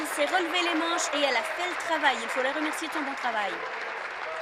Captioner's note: applause